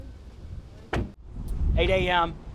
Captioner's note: door slamming shut